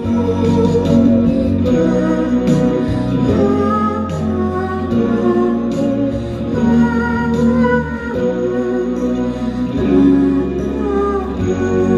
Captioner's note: humming